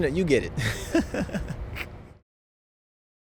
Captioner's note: laughter